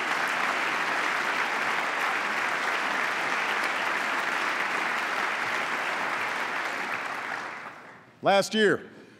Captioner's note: applause